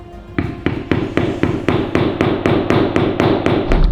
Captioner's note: hammer pounding